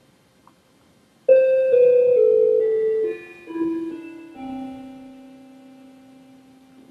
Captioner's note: Clock chiming, Thay smiling